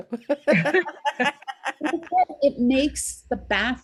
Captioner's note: ladies laughing